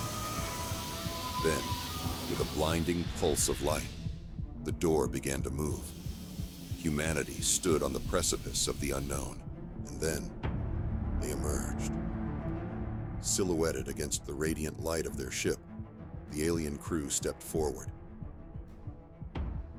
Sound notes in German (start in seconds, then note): 3.9 Herzschlag